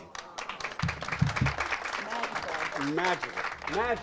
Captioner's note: audience applauds